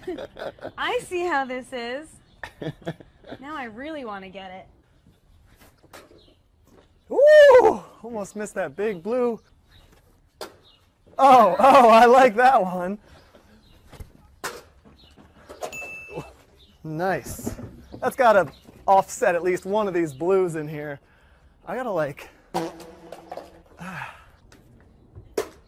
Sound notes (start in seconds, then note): 15.7 ding!; 22.5 sad, echoey fart sound